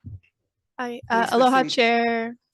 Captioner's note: audience applauding